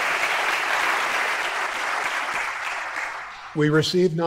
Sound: applause

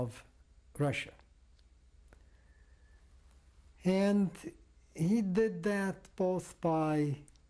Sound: pauses for 3 seconds

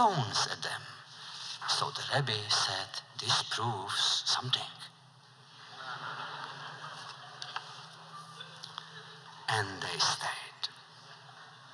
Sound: laughter

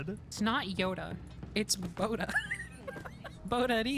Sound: laughter

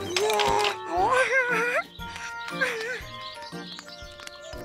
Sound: babbles

